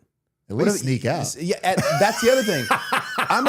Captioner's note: laughing